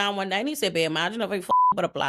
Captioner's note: beep